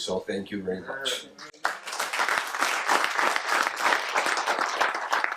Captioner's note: audience claps